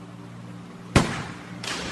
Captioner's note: gunfire